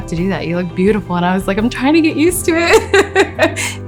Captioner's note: se ríe